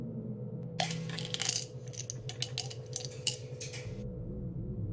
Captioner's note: pills rattling